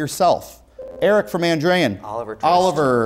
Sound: beeping

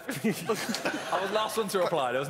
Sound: laughing

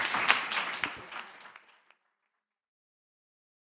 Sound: applause

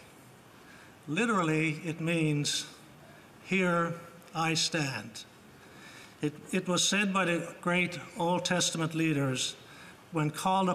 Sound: speaking Alternate Language

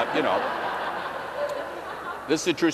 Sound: laughter

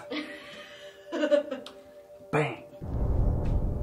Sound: laughs

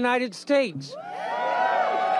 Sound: applause

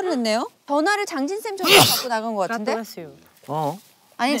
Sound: cough; coughs again

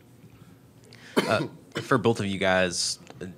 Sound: coughing

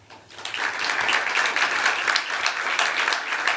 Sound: applause

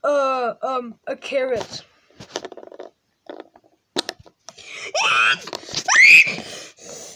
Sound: screaming

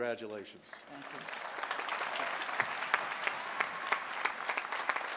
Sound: applause

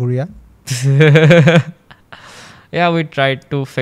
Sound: laughs

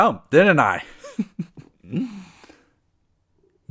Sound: laugh

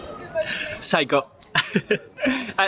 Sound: chuckle

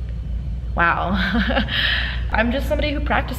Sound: laughs

